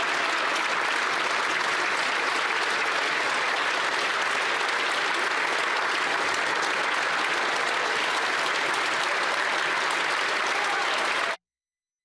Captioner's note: applause